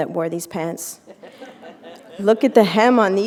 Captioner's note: laughter